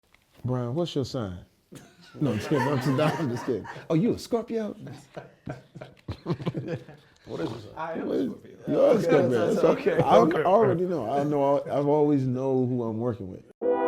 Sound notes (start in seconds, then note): 1.8 all laughing; 6.6 all laughing continues